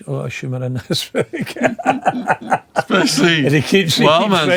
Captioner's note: laughing